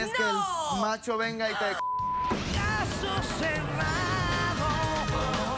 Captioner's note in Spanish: Bip